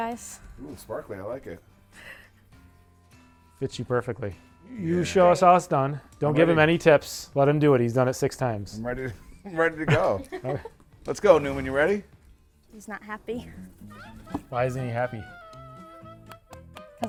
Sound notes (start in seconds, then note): 9.8 instructor laughs; 9.9 laughs; 15.6 playful music